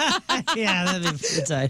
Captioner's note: laughing